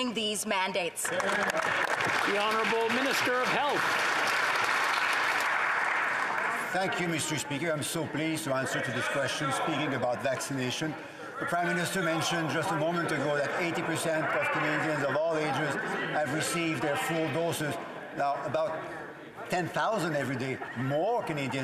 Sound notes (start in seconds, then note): 5.8 applause